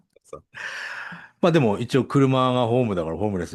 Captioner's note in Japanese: 息をのむ音